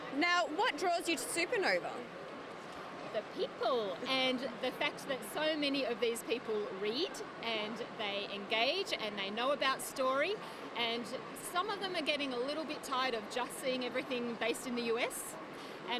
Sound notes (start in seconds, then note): none